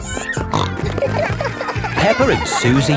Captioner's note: snorting